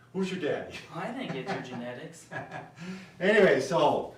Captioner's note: laughing